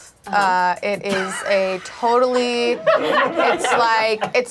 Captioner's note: group laughs